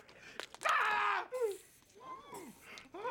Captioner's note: bones cracking; steam hisses